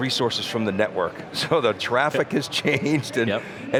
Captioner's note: laughs